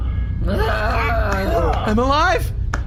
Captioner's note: happily